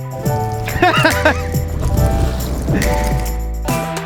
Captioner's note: laughs